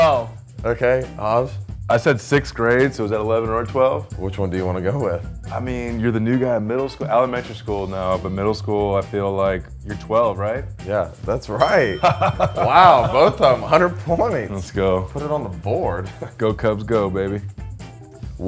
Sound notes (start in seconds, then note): 11.5 bell dinging; 11.8 men laughing